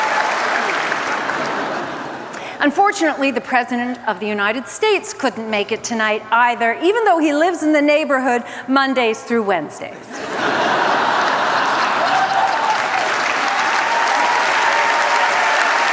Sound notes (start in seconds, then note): 10.2 laughter, applause